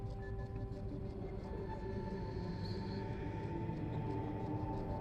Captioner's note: echoing voice speaking